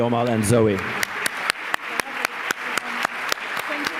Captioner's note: applause